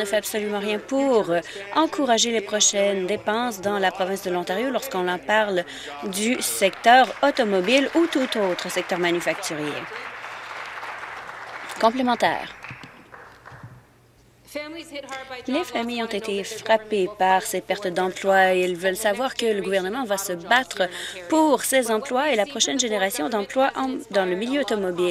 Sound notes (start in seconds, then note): 10.2 applause